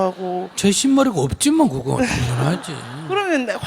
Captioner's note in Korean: 청중 웃음; 질문자와 청중 웃음